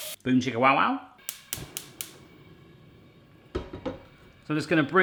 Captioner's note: burner lighting